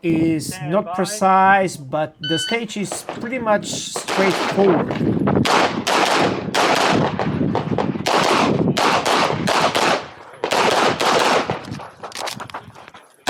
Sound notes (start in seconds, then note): 4.3 wind howling; 5.3 gunshots banging; 11.7 gun clicking